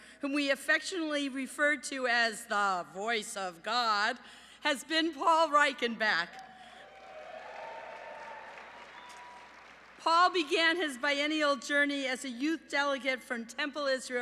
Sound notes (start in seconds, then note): 6.8 applause